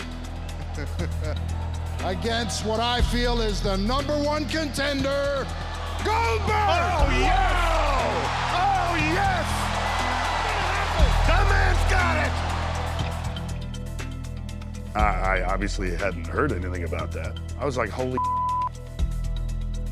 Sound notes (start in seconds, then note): 0.2 laugh; 10.1 applause